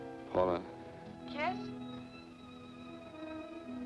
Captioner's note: on telephone